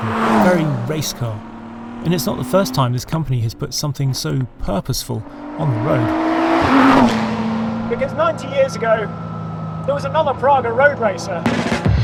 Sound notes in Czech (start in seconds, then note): 6.2 motor auta burácí; 11.8 jasná hudba